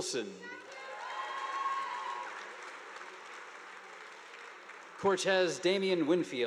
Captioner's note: students cheering; audience applauding